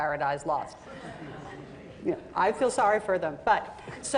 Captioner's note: laughter